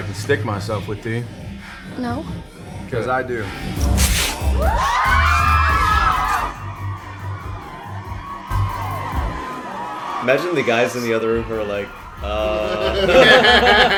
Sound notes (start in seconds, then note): 10.1 women screaming